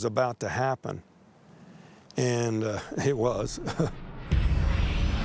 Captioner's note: chuckles